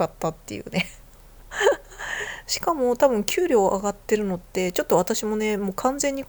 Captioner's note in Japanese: 息をのむ音